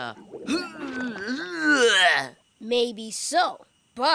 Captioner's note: groaning